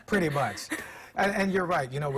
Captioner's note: laughter